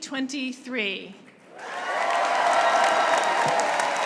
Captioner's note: applause